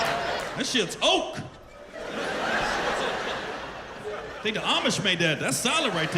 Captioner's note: laughter